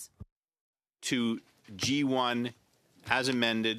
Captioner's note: speaking in French